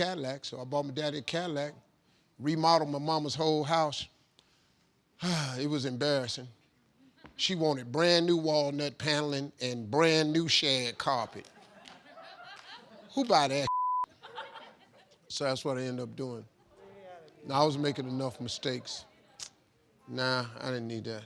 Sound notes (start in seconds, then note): 11.3 group laughing; 13.6 beep; 14.0 group laughing